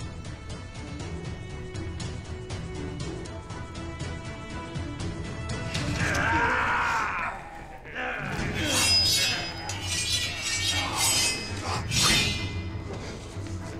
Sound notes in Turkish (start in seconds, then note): 5.8 Bağırma sesleri; 8.2 Kılıç sesleri